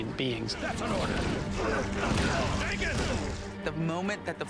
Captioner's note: grunting